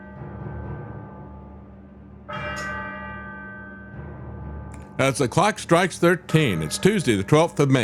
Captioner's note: bell Ringing